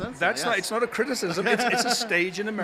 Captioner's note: laughs